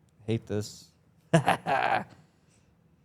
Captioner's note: laughs